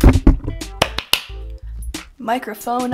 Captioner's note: clapping